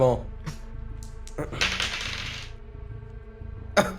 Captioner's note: rolls dice